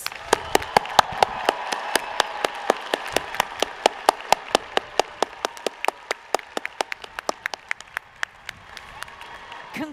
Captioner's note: applause